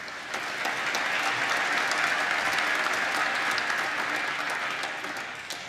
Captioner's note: applause